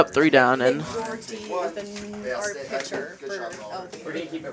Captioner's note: indistinct chatter